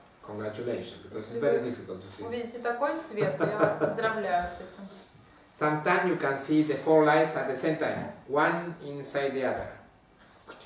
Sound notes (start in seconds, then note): 3.2 hahaha